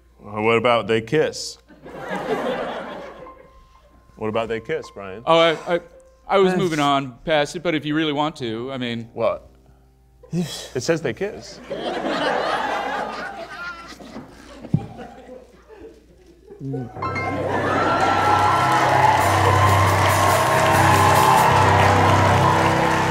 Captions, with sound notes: - What about they kiss? (audience laughing) What about they kiss, Brian? - Oh, I was moving on past it, but if you really want to, I mean- - Well, it says they kiss. (audience laughing) (audience cheering) (dramatic music)